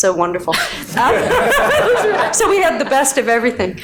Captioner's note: all laughing